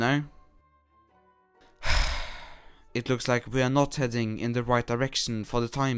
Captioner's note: sigh